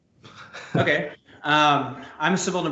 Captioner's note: chuckles